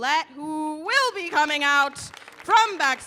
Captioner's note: audience applauding